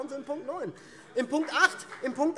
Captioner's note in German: Beifall